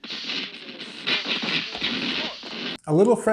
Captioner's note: flames sparkling